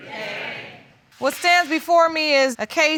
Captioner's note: none